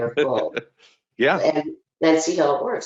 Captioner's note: laughing